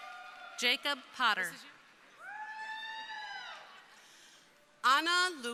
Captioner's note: crowd cheering